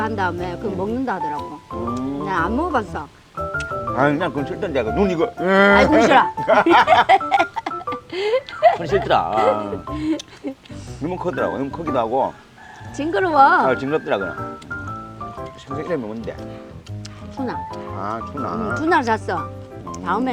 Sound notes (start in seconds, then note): 6.9 both laughing